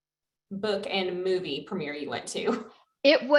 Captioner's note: laughs